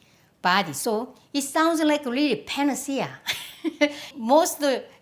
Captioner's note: laughs